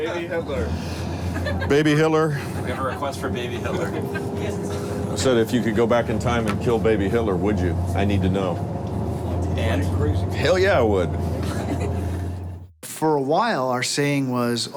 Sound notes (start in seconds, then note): 0.2 voiceover; 2.9 voiceover; 8.7 voiceover; 11.3 laughter